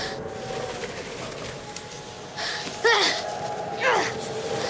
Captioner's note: rustling and fluttering